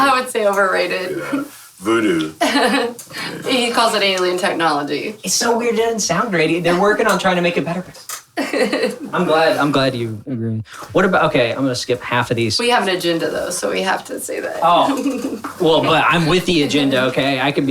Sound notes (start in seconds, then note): 1.8 laughing; 8.4 laughing